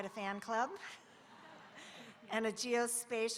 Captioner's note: audience laughing